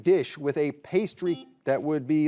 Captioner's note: buzzer buzzing